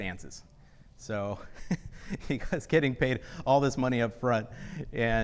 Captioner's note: laughs